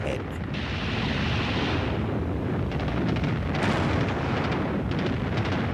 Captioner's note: gunfire